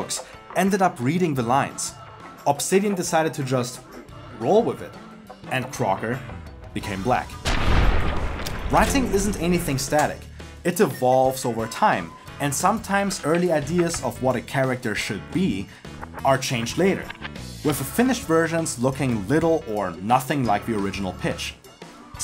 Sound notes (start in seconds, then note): 7.4 sniper rifle shooting